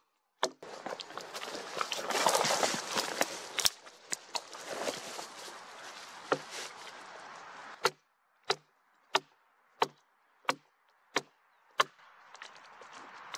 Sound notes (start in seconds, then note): 0.6 leaves and branches crackling, footsteps; 7.6 axe knocking on wood; 12.2 wood cracking, brushing work with a gloved hand, car passing